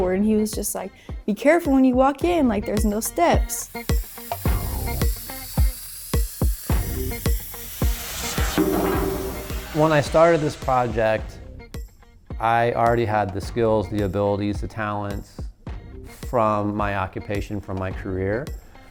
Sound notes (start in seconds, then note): 3.3 torch sizzling; 4.7 exciting music continues